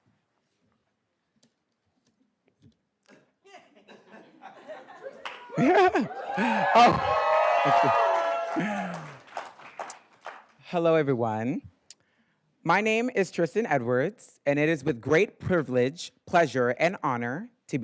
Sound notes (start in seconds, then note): 3.4 giggles; 8.6 attendees cheers